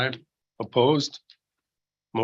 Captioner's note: silence